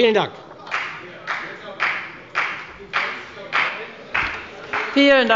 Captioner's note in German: Beifall bei der FDP